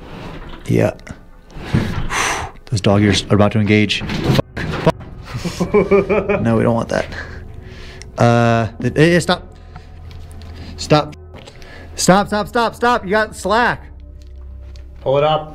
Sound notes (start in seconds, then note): 2.0 exhaling steeply; 3.9 cage clanging; 5.2 men chuckling nervously